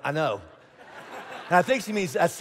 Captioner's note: congregation laughing